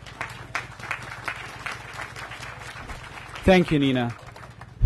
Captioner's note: applause